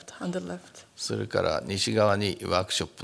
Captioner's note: speaking japanese